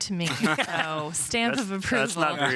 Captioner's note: all laughing